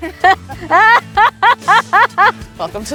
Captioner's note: laughing